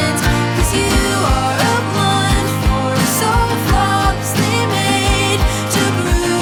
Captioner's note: voice gains strength, edged with fierce love and self-recrimination